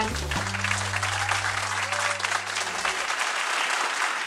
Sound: audience applauding

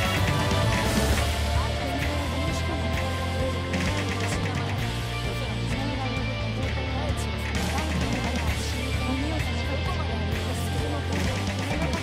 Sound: japanese voices speaking

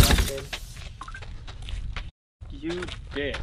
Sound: door closed

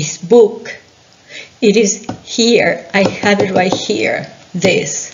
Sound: tapping

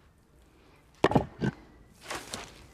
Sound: thud hammering

